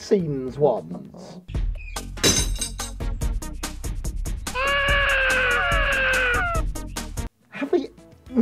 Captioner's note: crocodile sounds like crying baby